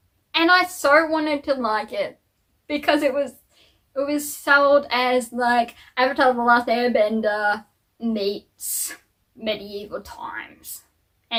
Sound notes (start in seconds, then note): none